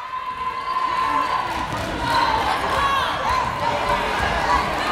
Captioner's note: yelling